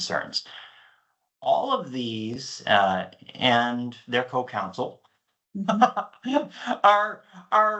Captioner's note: laughs